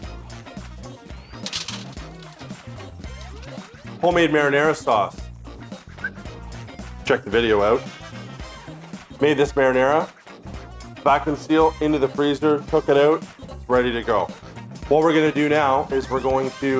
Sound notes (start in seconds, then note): 5.7 whistles